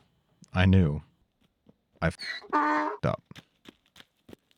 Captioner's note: donkey brays